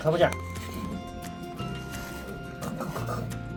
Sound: sniff sniff

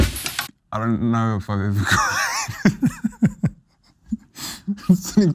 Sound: laughs

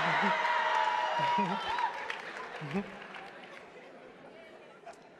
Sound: attendees applauding and cheering

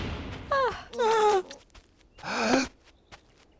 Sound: gasps

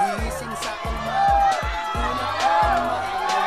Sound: jeering

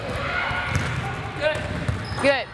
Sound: distant shouting

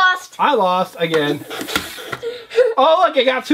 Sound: voiceover

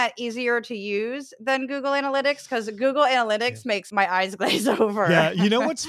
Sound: laugh

